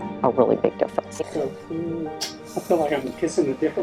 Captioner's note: lips smacking